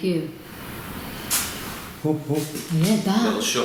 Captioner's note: bang